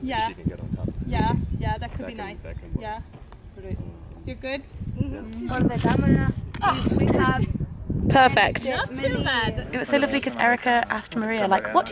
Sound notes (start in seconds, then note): 5.6 voiceover